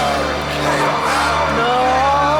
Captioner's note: chanting